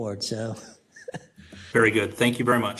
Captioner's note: laugh